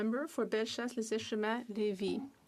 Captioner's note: speaking French